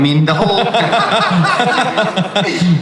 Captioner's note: everyone laughs